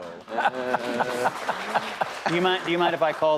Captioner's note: audience clapping